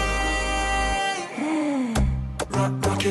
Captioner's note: muffled gasp